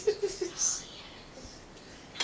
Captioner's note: laughs